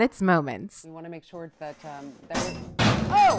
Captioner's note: crash